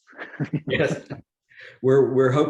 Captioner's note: laughs